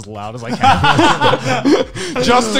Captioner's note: laughing